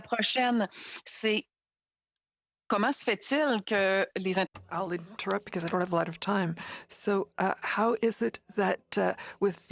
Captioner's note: speaking French